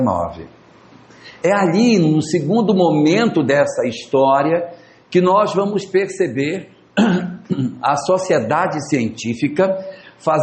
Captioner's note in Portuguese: limpando a garganta